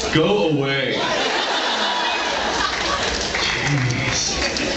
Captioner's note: laughs